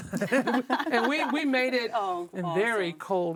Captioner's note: panelists laughing